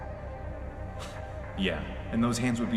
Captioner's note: scoff